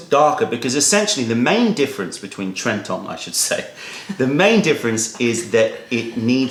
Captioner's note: laughter